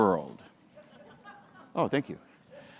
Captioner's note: audience laughs